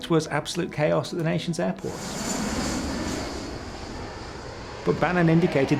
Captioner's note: jet roaring